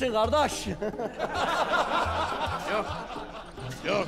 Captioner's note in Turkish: Gülme sesleri